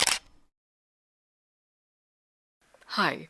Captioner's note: camera shutter